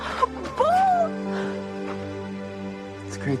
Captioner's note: gasps